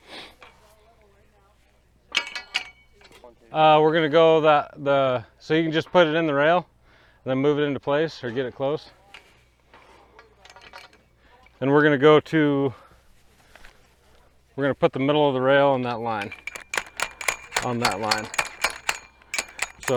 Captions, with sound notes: (rail clanks) We're gonna go the, so you can just put it in the rail and then move it into place or get it close. (rail clanks) And we're gonna go to... We're gonna put the middle of the rail in that line. (rail clanks) On that line. (rail clanks)